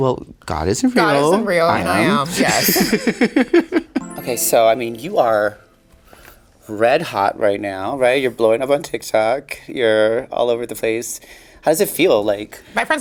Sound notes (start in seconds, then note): 2.0 Sasha laughing; 4.0 chimes chiming